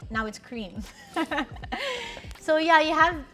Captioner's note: laughs